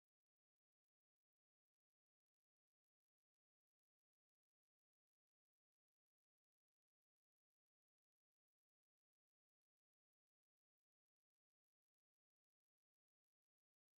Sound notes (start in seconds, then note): none